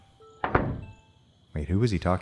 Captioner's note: door closes